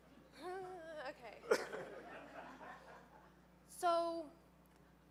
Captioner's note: audience laughing